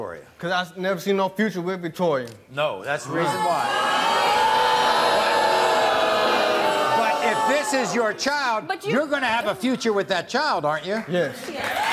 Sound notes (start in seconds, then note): 3.1 crowd jeers